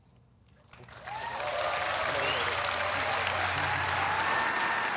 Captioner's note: applause